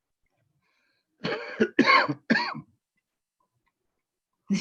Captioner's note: coughs